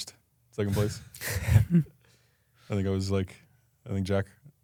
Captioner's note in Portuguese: risos